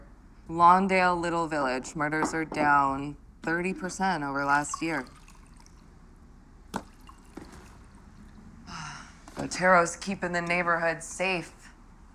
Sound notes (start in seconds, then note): 4.4 liquid pouring; 8.6 sighs